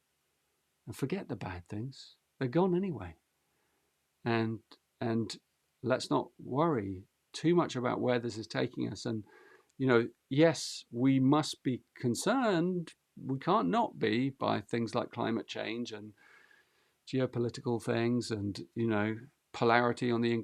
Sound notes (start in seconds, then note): none